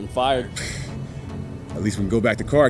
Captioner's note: scoffs